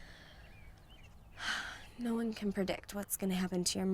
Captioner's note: sighs